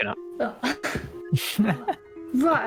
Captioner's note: laughs